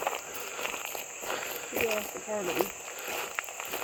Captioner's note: gravel crunching